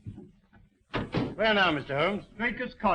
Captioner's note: door slamming